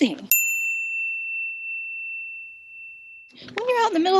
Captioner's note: bell rings